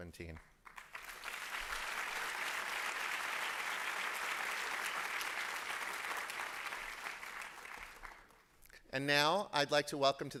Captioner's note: applause